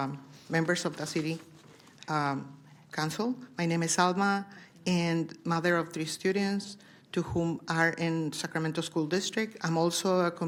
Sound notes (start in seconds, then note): 0.9 speaking spanish